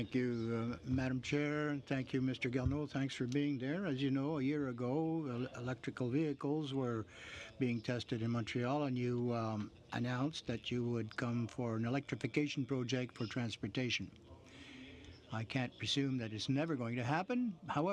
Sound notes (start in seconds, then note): 2.8 speaking French